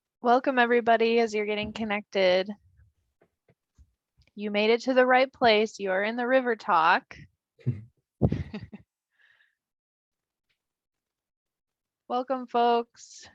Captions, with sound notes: >> Welcome everybody as you're getting connected. You made it to the right place. You are in the River Talk. [laughs] Welcome folks.